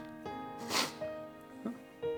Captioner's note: crying